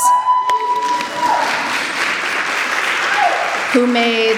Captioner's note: audience cheering and applauding